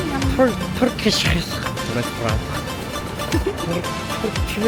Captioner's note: Turkish